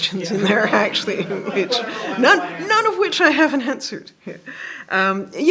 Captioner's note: laughter